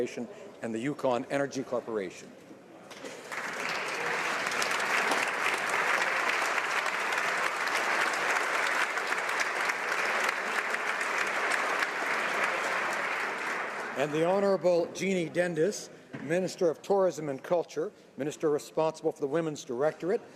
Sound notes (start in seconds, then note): 6.4 applause